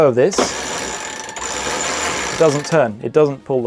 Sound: winch rattling

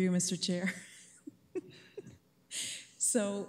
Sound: chuckles

